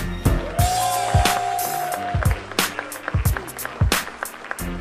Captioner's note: applause